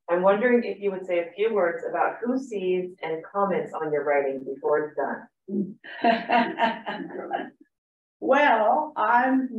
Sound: laughter

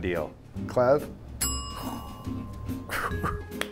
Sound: bell dings

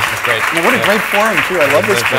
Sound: applause

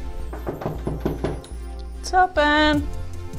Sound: knocking at the door

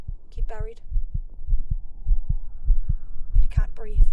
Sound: loud, thumping heartbeat

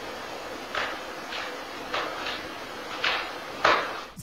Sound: whacking

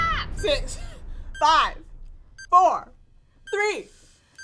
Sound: timer beeping

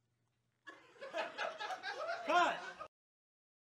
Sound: laughing

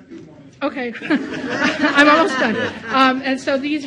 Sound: audience laughs

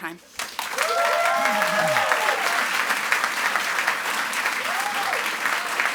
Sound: audience applauds and cheers

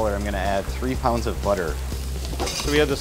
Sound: metal clinking

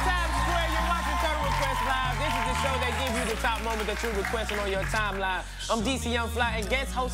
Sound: cheers and applause

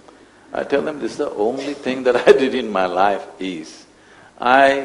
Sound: laughs

